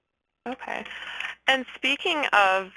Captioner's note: voiceover